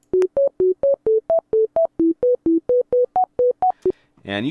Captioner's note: quick tones